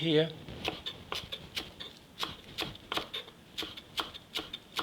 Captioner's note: knife chopping